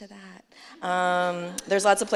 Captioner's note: laughter